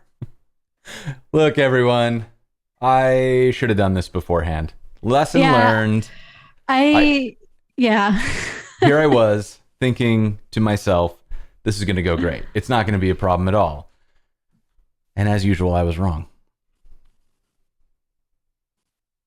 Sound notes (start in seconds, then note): 8.2 laughter